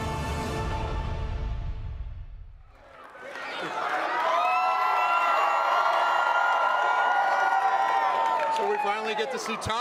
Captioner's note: applause